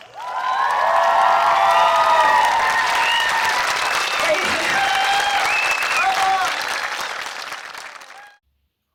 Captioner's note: loud cheering and clapping